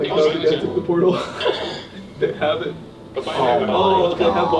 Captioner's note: laughs